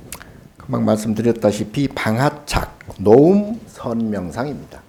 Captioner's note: speaking Korean